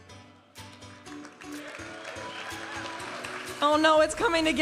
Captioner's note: audience applauding and cheering